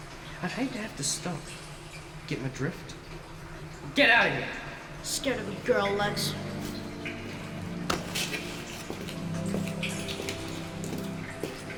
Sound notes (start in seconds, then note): 8.9 water dripping